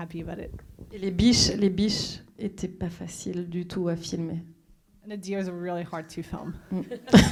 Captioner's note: speaking French